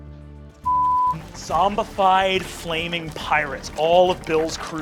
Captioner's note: beeping